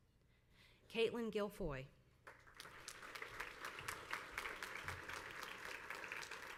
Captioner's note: crowd applauds